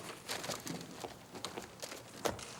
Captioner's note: footstep